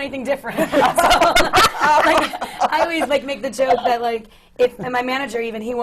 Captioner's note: laughter from the panel